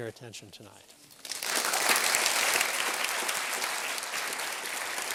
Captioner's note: applause